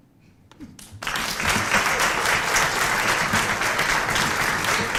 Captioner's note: applause